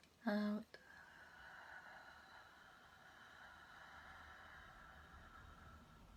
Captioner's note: exhaling